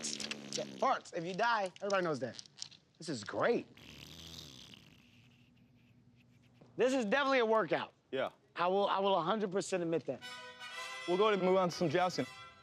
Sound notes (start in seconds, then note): 3.7 farting continues